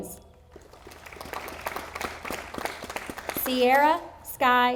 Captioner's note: audience applauding